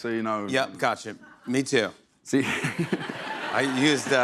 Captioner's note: laughs